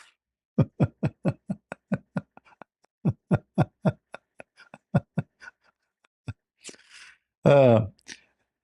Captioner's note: Ketawa